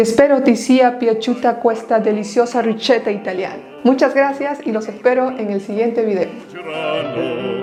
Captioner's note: Italian